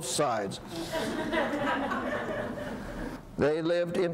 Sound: audience laughs

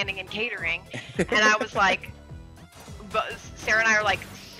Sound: laugh

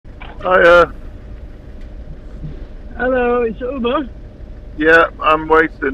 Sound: on phone

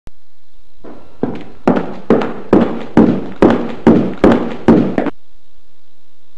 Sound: walking

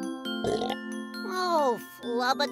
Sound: burp

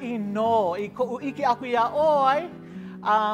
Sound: in Hawaiian language

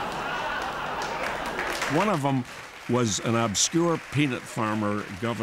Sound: laughter and applause

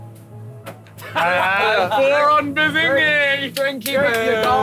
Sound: laughs

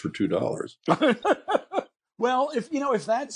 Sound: laughing

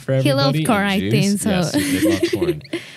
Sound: laughs

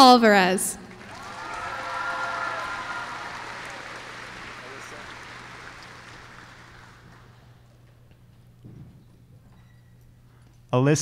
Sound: applause

